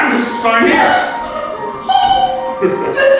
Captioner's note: excited noises